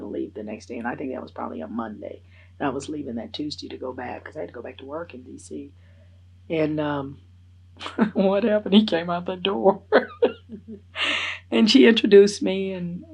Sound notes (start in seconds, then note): 9.6 laughs